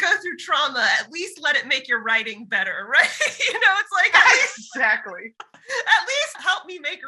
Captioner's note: laughs